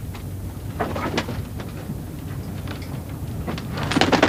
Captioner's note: birds coo